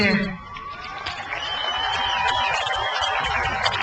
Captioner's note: crowd cheers